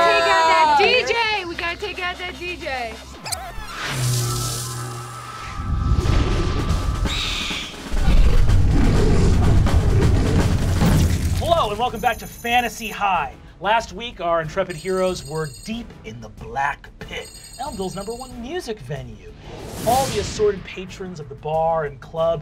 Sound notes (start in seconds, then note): 2.9 electronic music; 7.6 owlbear screech; 9.1 drumline